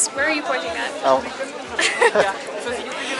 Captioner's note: laughs